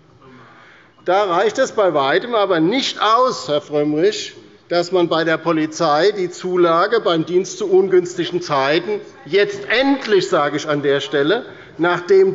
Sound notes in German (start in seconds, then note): none